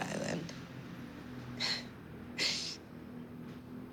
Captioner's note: chuckles